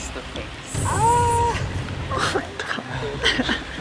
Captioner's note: campers gasp